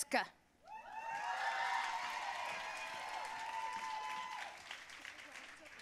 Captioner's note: audience cheering and applauding